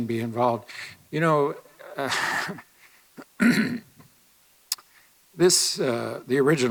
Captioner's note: chuckles, clears throat